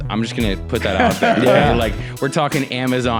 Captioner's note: laughs